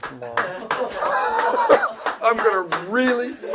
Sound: applause from on-set crew

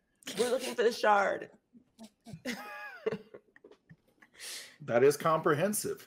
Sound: chuckles

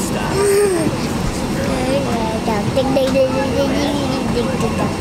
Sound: vocalizing

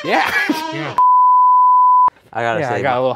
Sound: laughs; noise beeps

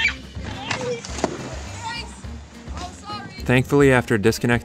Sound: children playing in the distance

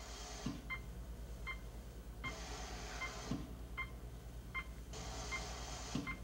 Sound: air hissing; machine beeping

